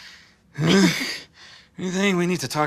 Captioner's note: worried Dad-checking-for-bites noises